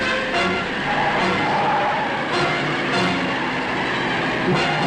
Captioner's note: tires squealing